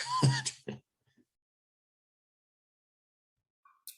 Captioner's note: chuckling